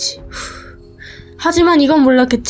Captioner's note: sighs